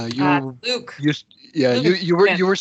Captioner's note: giggles